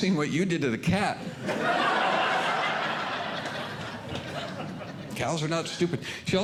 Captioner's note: audience Laughing